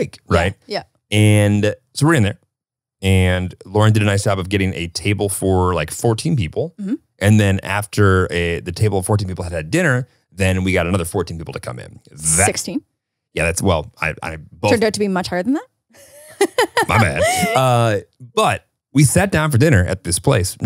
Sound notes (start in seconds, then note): 16.1 laughs